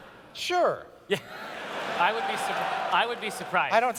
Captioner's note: audience cheers